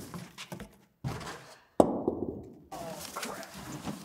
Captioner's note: extinguisher thudding